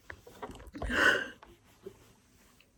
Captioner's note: exhales forcefully